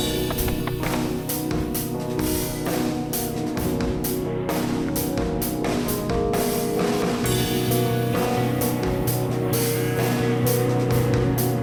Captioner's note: plane sound in distance